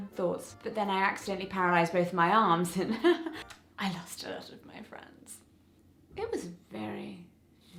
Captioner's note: chuckle